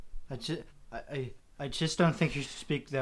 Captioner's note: stammering